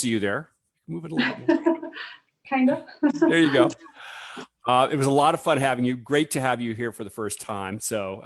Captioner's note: laughs